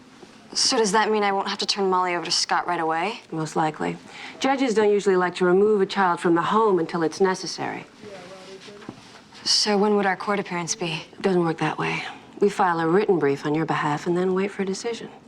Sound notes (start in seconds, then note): none